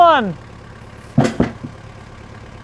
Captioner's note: engine revving; wood thuds